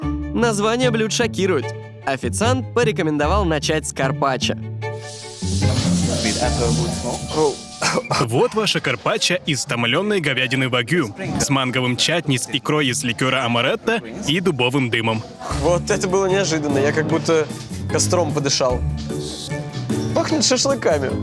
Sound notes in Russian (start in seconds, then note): 7.8 закашлялся